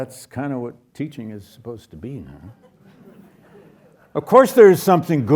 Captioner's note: audience chuckles